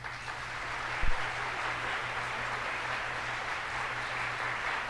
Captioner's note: audience applauds